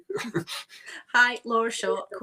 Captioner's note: both chuckling